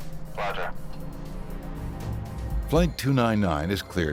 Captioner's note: airplane engine roaring